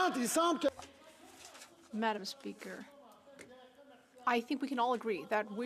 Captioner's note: speaking French